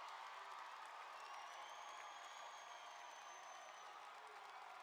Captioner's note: cheering and applause